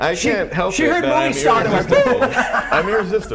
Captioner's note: laughter